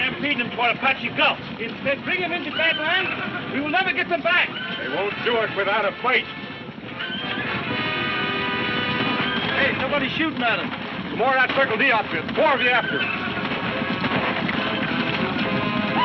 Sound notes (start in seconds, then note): 6.1 dramatic music; 6.1 horses neighing; 13.2 hooves thudding; 15.6 men shouting